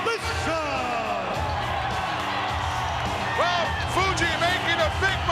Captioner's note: crowd cheering